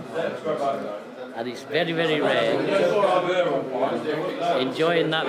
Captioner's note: background chattering